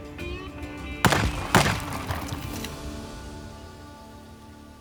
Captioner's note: gunshots